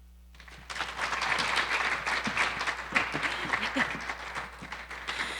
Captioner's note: audience applauding